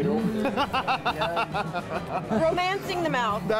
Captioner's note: laughter